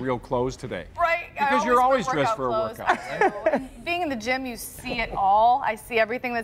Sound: laughter

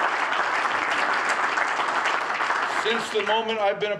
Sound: applause

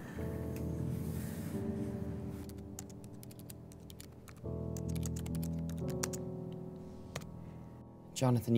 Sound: typing sounds

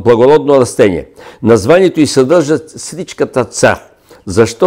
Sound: in Bulgarian

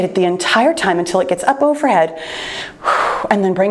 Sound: exhales sharply

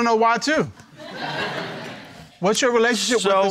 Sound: crowd laughing

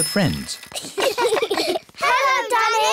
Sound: all giggling

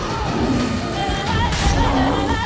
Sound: roar

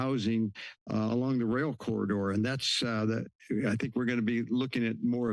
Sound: stutters

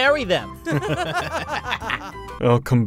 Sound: laughing

